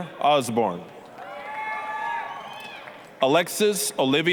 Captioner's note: applause, cheering